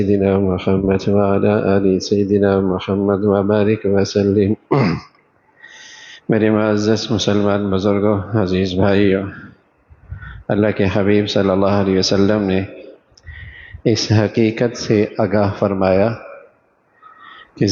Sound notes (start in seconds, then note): 4.7 clears throat